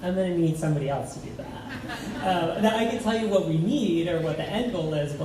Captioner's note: laughs